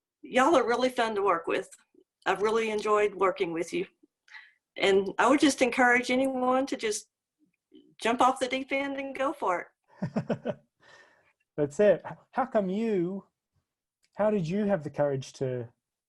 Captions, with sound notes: y'all are really fun to work with. I've really enjoyed working with you, and I would just encourage anyone to just jump off the deep end and go for it. (laughing) - That's it. How come you, how did you have the courage to,